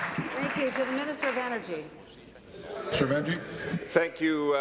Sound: applause

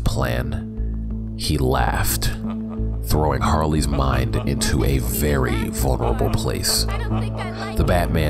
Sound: batman laughing

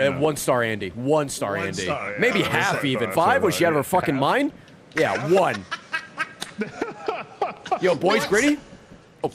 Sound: laughs

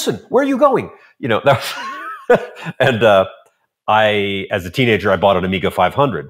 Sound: laughs

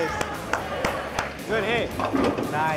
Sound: clapping

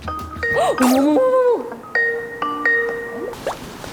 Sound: phone bell rings at the appointment time

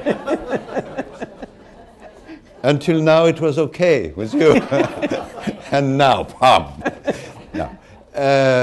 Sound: laughter

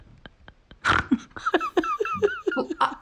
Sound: woman snorts

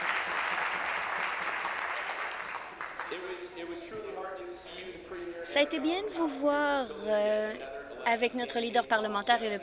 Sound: applause

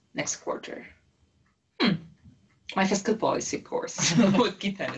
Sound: laugh

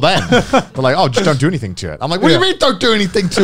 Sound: laughing

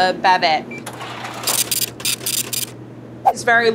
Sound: scale beeps and brrhs

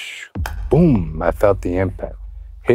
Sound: whoosh; clap

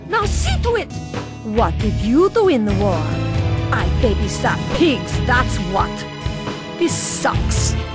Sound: pompously indignant delivery

